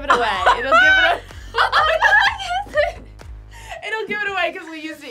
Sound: group laughs

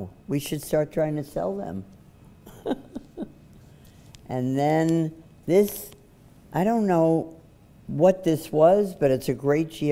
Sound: laughs

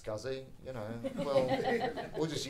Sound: audience laughing

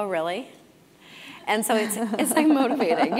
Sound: laugh

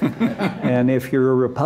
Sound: laughter

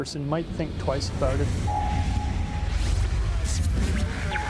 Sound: voiceover

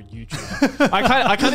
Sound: laughs

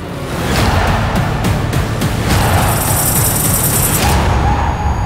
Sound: crowd shouting

